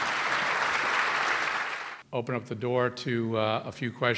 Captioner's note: applause